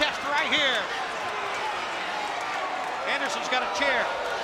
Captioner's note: spectators cheering